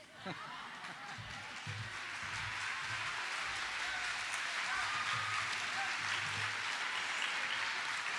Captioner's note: audience applauding